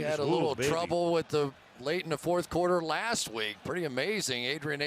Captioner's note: cheering